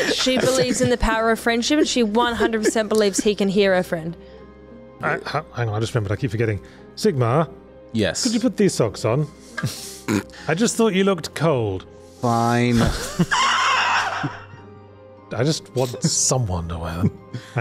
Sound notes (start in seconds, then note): 12.8 laughs like a demon